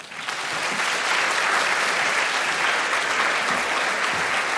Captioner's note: audience applauding